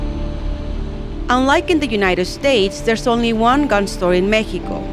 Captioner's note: voiceover